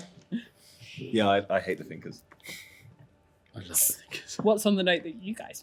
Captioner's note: whispers